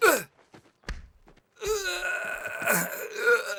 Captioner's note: men grunting